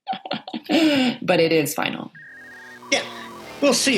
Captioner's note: laughs; phone ringing